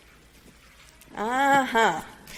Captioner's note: hands rustling softly